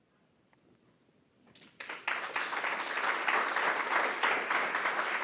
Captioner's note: applause